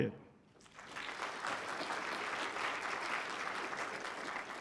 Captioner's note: applause